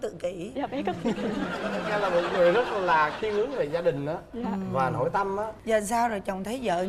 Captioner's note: laughing